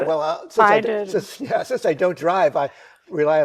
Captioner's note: chuckles